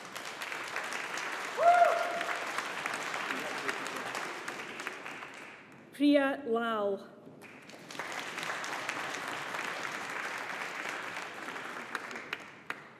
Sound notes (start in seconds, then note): 0.0 audience applauding; 7.4 audience applauding